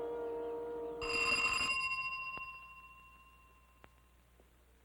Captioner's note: doorbell ringing